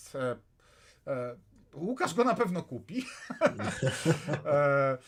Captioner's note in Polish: śmiech